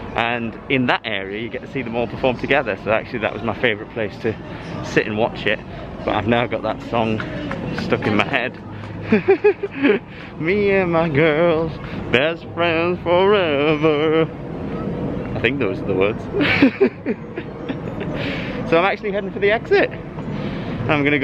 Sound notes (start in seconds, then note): 16.3 laughter